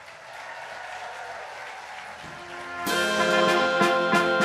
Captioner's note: audience applauding